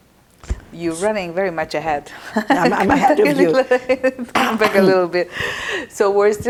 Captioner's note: laughing